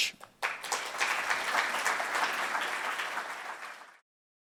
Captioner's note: audience applauds